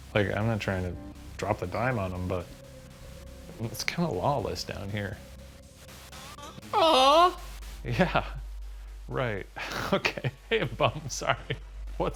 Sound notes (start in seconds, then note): 5.3 device scratching; 5.3 eerie music; 9.6 chuckles; 9.6 laughs